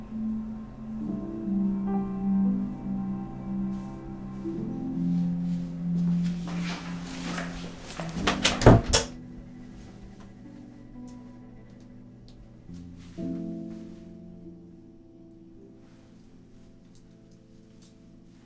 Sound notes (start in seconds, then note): 8.2 door closes, lights switch clicks